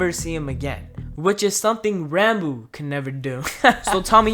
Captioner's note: laugh